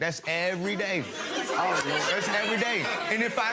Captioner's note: laughing